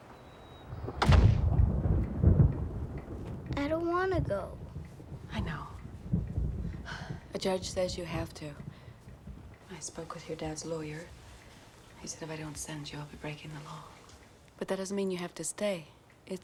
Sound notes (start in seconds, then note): 0.9 door slams; 1.1 thunder rumbling